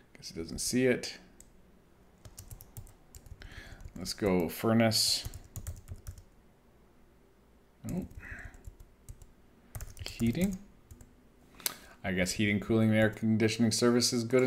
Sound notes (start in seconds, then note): 2.2 keyboard clicking; 5.2 keyboard clicking